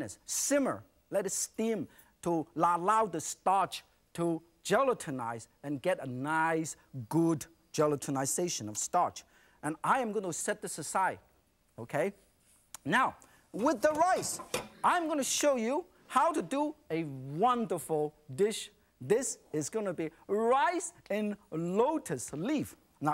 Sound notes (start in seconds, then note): none